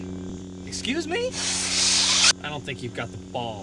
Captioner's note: blade retracts